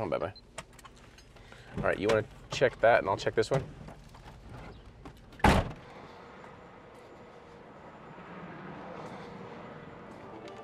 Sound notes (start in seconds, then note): 5.4 door thuds